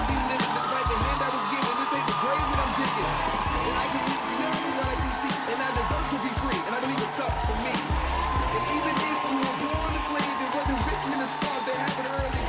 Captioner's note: applause